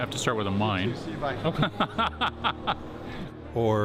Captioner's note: laughing